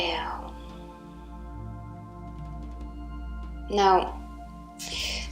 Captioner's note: exhales deeply